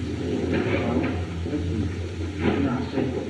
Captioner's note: chattering